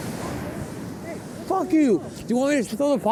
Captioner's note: speaker shouting from afar